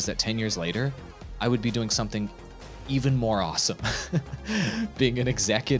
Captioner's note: laughing